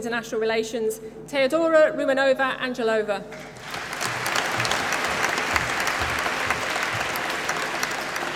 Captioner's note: applause